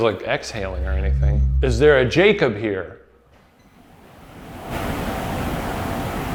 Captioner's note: soft whispering